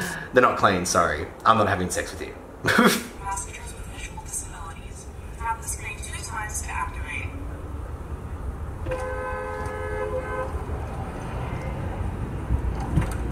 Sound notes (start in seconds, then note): 2.6 laughs; 8.8 car honking